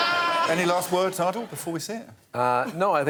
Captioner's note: laughter